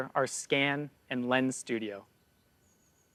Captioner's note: distant birds calls